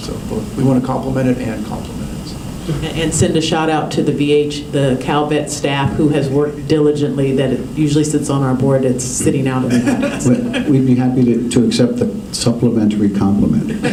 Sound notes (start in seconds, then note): 9.6 laughter